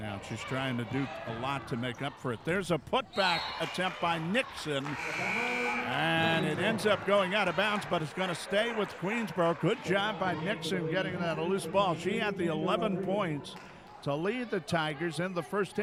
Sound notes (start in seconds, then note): 4.9 buzzer sounding; 4.9 referee whistling